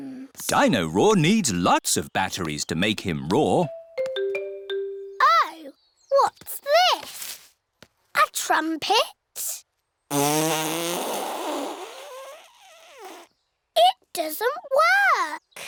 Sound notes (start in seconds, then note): 10.1 blows raspberry